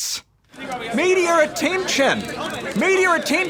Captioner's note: clamouring